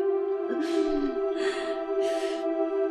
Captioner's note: Naira gasping for air